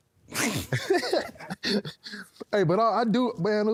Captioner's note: Cody and Jey laughing